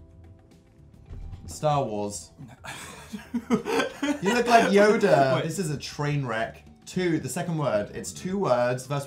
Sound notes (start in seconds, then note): 2.6 laughs while trying to say no